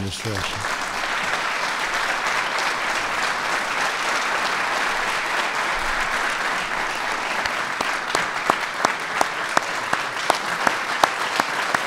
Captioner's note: applause